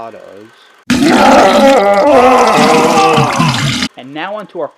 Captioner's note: sounds of bowel discomfort